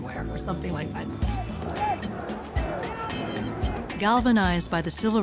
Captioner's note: crowd shouting overlaps